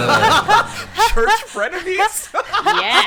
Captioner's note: everyone laughing